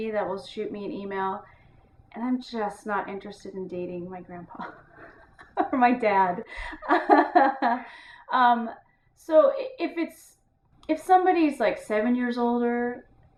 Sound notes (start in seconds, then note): 4.5 laughing